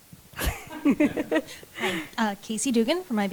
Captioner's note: laughs